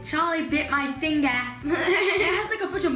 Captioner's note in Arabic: يضحك